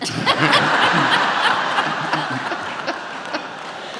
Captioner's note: audience laughs